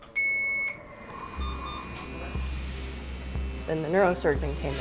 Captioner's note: hospital machines beeping